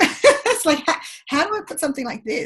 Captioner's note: laughs